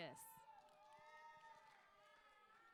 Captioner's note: applause